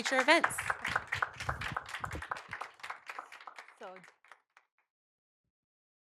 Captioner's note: applause